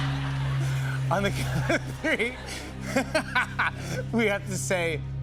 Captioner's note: laughs